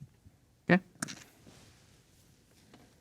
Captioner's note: dice rattling